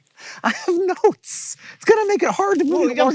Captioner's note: breathlessly